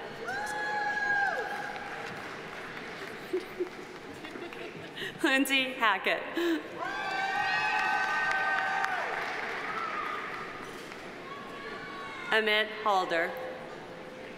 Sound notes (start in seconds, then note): 0.2 audience cheering; 1.0 audience applauding; 3.1 chuckles; 6.8 audience cheering; 6.8 audience applauding